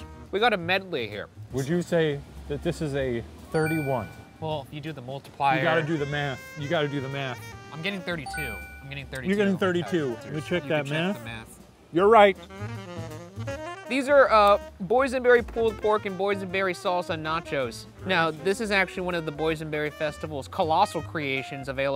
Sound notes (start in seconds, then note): 3.5 bell dinging; 13.0 gentle upbeat jazz music